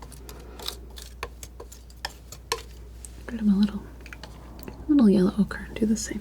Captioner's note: scratching